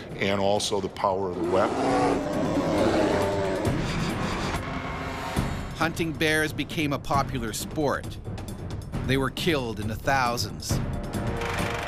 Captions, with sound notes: and also the power of the weapon. (bear growling) - [Voiceover] Hunting bears became a popular sport. They were killed in the thousands.